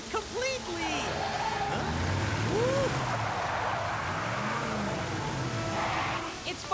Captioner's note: engine Revving